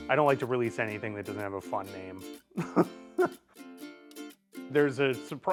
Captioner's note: chuckles